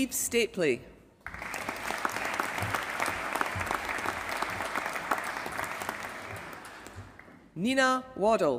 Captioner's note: applause